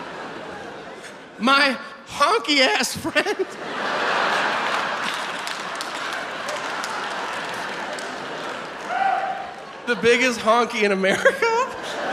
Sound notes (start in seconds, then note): 2.6 audience laughs and claps